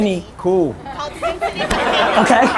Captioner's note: audience laughter